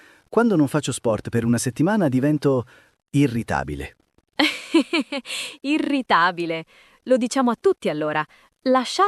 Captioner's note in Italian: risate